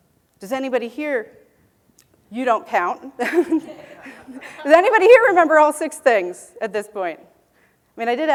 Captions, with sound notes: Does anybody here . . . you don't count [laughing.] Does anybody here remember all 6 things at this point?